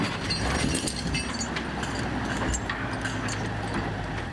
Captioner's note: chains rattling